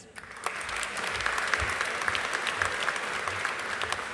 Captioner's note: audience applauding